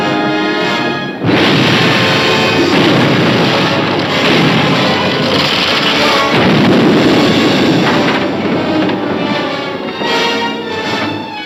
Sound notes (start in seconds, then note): 1.2 explosion booming; 1.2 dramatic music